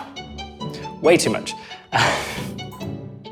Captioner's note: laughs